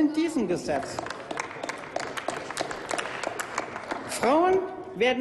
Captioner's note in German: Applaus